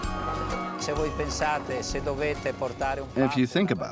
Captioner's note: Italian spoken audio